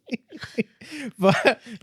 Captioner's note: laughing